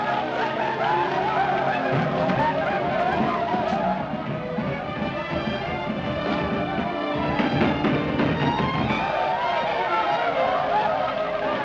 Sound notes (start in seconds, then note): 4.2 pounding on door; 9.4 war cries